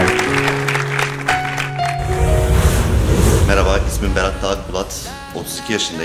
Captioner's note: applause